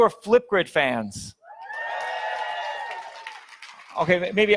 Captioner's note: audience cheers